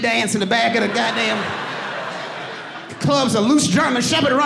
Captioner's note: audience laughing